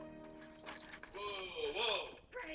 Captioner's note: keys rattling